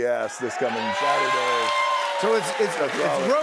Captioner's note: cheers and applause